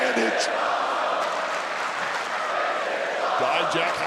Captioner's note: audience cheering